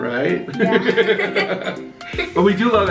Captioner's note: both laugh